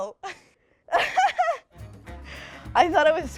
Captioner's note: laughing